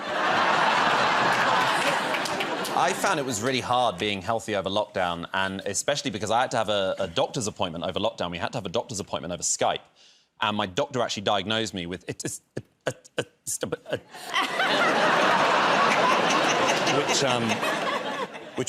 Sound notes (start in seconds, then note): 0.0 laughter; 12.1 stammering; 13.8 laughter